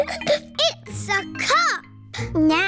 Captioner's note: giggles